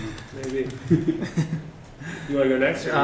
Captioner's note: laughter